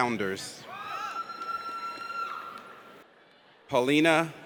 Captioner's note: audience cheers